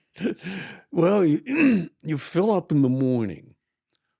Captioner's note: laughing